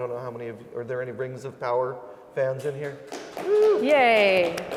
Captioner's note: applause